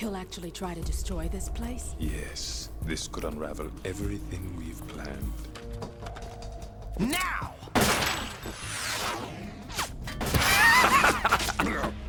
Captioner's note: laughs